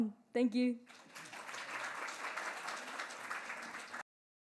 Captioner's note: applause